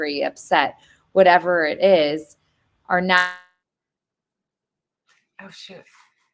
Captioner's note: audio distorts